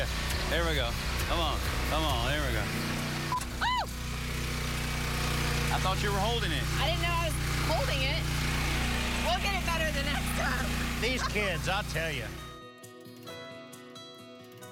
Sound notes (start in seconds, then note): 3.2 squeals; 10.9 chuckles